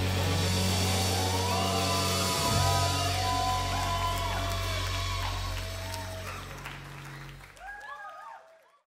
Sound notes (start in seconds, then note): 0.0 crowd cheers